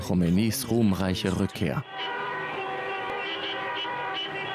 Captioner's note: cars honking